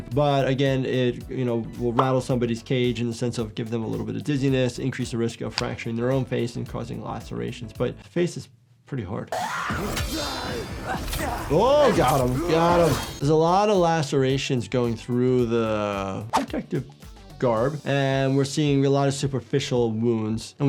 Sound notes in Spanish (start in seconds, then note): 9.3 Senua gritando; 9.4 Esclavista gruñendo; 9.4 sonido de espada